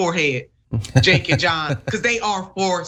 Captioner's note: laugh